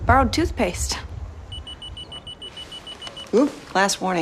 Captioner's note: pager beeping